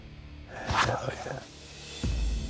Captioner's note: whispers